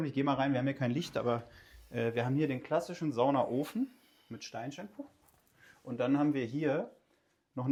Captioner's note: puff